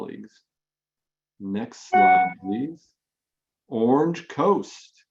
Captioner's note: audio feedback